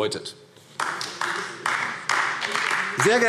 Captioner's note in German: Beifall AfD